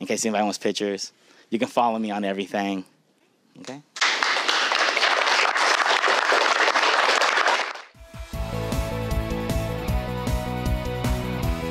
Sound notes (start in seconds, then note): 4.0 clapping; 8.0 upbeat music